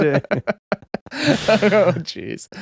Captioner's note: laughing